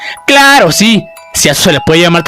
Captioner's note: raising her voice